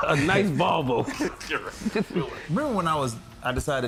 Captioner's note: laughter